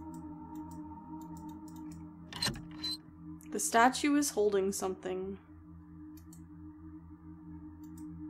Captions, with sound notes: [Creaks] "The Statue is holding something."